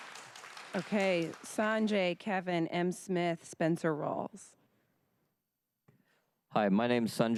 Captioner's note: applause